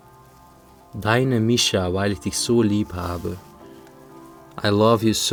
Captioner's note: reading in foreign language